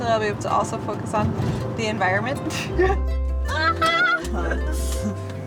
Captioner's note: laughing